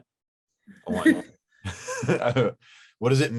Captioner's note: laughing